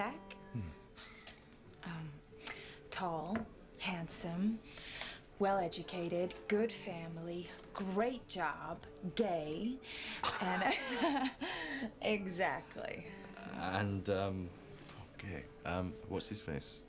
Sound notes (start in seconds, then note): 10.2 Kate laughs; 10.2 Rob laughs